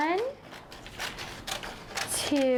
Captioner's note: scissors snipping